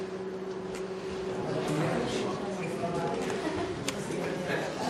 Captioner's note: crowd chattering